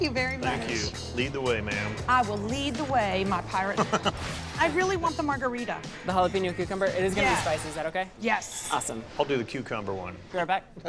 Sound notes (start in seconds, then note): 3.7 chuckles